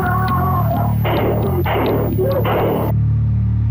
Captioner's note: gunshots